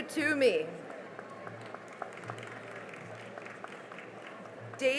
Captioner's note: cheering and applause